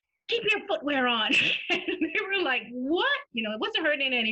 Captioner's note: laughter